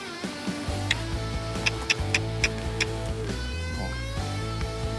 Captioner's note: mouth clicking